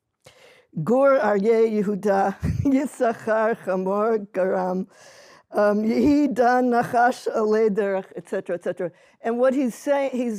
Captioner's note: non-english speech